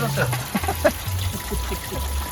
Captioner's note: laughter